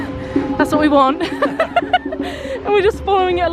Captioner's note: laughs